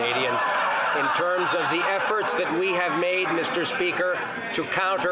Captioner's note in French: voix de l'interprète